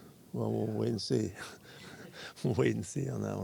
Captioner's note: laughs